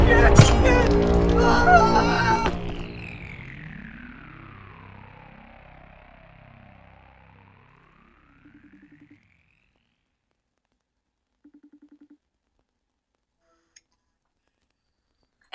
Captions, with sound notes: - Oh shit, Vince! [friend screams] [ominous music] [phone ringing]